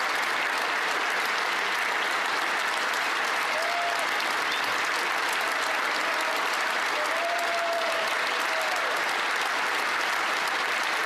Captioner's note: applause